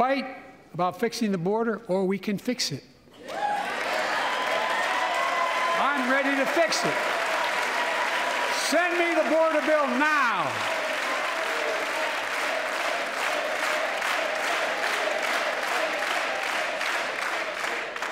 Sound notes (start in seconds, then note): 10.5 applause; 16.8 applause